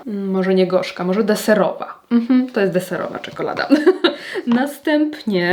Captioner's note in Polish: śmiech